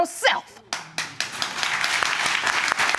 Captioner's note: audience claps